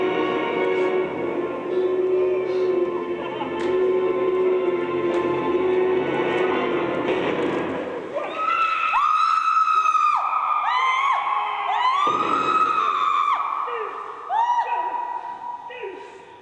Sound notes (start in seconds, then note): 8.1 screaming